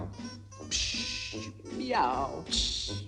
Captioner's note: hissing